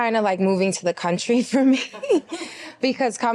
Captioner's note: laughs